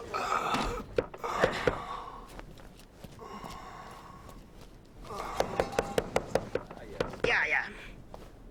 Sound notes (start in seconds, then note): 0.0 gasping; 3.0 footsteps; 5.0 knocking